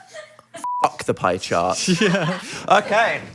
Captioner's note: beep